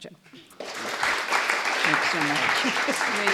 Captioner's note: applause